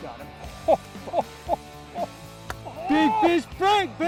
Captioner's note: laughing